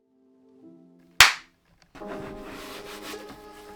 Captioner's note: clap